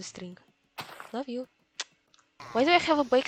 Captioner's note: kiss